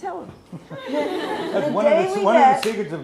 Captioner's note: laughs